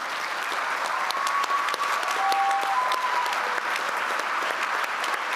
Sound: applause

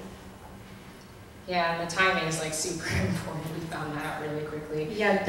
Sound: voiceover

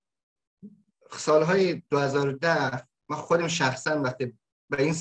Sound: speaks in Dari

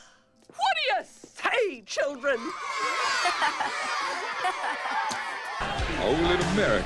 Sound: students cheer

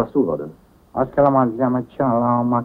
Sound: Swedish spoken audio

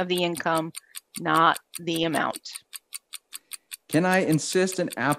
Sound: clock ticking

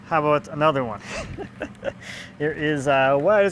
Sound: laughs

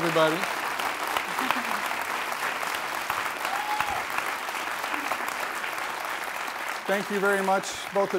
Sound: applause

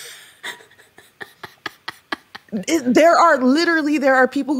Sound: laughing

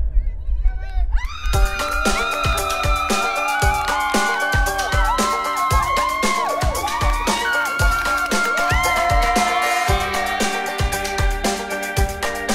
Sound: screams; applause

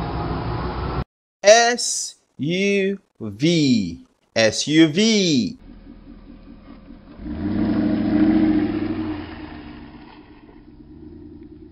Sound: SUV Sound

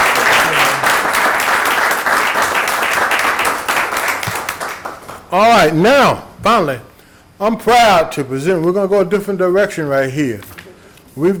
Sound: applause

